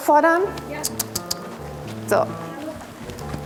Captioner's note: clicks